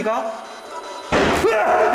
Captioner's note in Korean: 문닫히는 소리